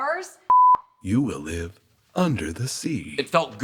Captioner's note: beep